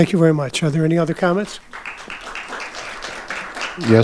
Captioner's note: audience applauding